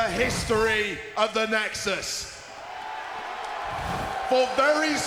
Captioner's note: graphics whooshing